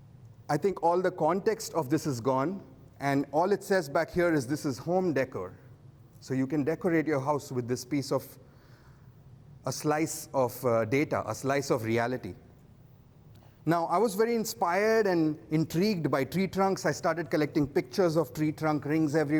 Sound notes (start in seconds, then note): none